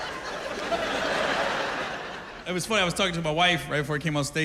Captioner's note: laughter